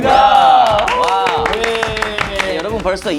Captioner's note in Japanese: パチパチパチ